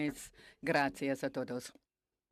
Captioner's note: speaking French